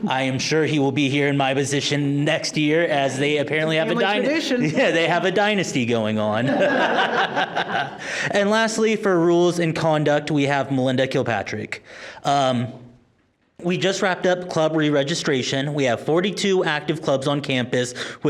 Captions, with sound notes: I am sure he will be here in my position next year as they apparently have a, yeah, they have a dynasty going on. (members laughing) And lastly, for rules in conduct, we have Melinda Kilpatrick. We just wrapped up club reregistration. We have 42 active clubs on campus